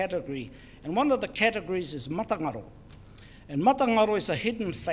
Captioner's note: foreign Language